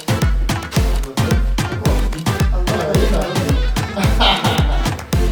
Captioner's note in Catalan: castellà; riure